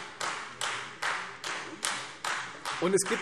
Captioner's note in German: Beifall Freie Demokraten